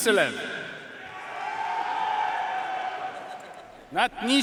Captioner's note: audience cheering and applauding